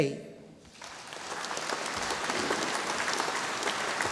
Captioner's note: audience applauding